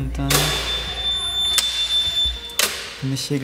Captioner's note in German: Quietschen